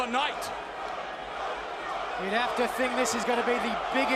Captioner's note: crowd cheering